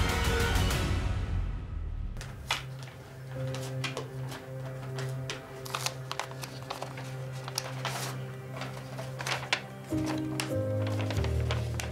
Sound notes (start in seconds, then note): 2.7 envelope rustles; 9.8 gentle piano music